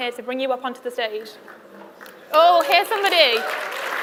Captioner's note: applause